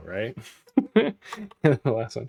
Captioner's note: laughs